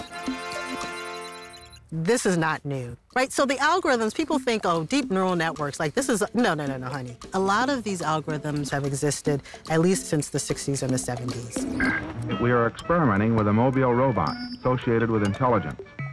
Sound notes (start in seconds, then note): 11.5 robot warbling